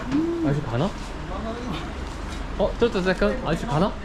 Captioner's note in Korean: 툭툭 엔진소리 남